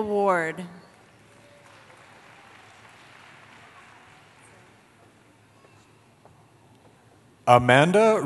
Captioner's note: applause